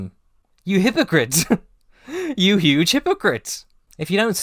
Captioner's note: nervous laugh